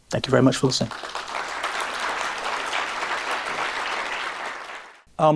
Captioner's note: applause